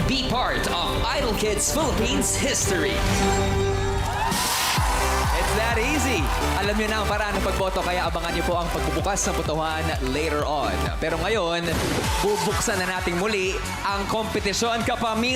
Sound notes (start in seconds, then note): 4.1 cheering, clapping